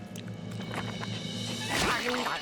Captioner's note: eating nosily